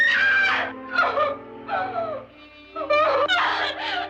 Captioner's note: sobbing